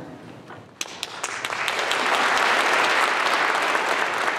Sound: applause

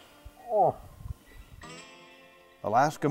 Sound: grunts

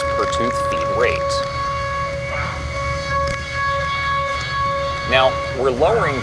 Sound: machining noises

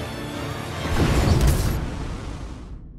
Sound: crashes, glass cracks

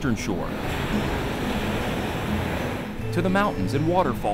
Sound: waves crashing

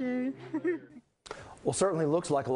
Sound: laugh

